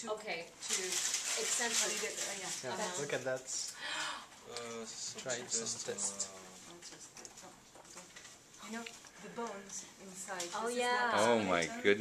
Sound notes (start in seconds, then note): 3.8 gasps; 6.8 chatter